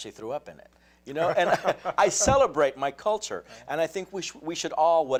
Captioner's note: laughs